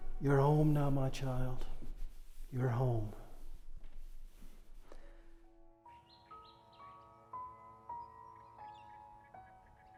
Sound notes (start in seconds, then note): 4.0 gentle music; 5.9 birds chirping